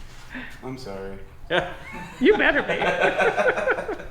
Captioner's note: laughing